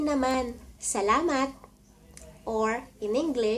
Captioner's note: Tagalog